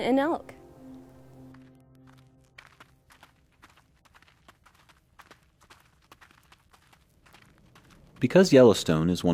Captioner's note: sound of footfalls in dirt